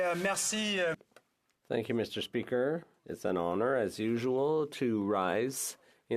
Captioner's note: speaking French